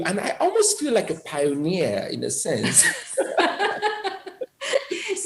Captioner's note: laughter